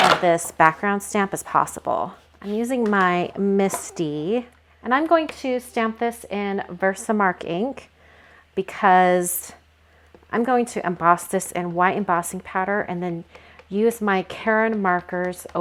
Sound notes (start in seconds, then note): none